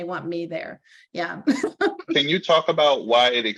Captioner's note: laughing